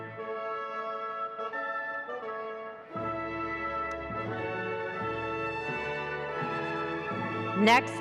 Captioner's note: ceremonious music; faintly speaking